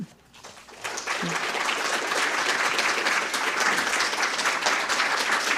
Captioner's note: applause